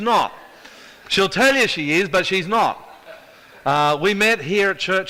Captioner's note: audience chuckles